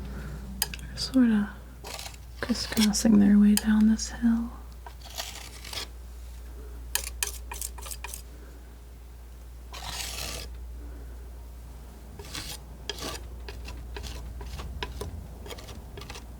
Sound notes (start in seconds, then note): 4.5 scratching